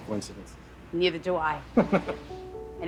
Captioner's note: chuckles